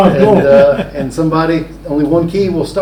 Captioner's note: Richard laughing